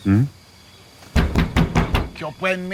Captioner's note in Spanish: Golpes en el carro